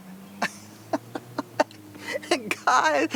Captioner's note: chuckles